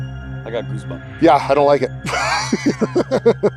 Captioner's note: laughs